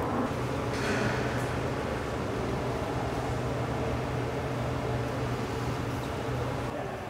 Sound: whirring

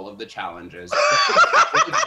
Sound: laughs

